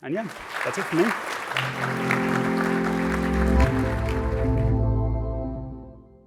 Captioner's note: applause